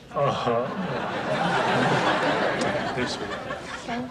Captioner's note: audience laughs